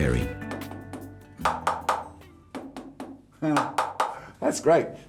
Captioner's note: different resonating tapping